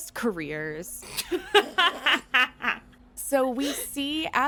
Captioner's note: laughter